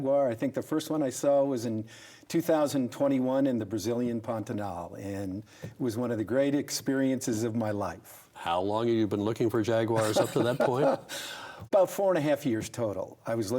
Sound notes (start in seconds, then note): 9.9 laughs